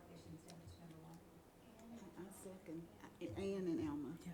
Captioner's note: voice is muffled